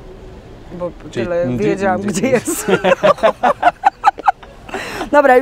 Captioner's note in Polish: śmiech